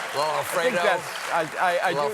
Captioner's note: applause